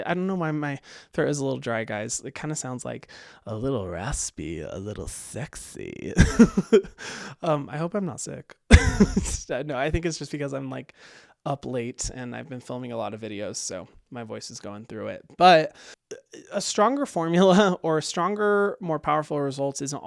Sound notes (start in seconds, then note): 6.1 laughs